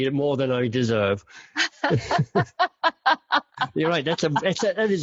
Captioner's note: laughing together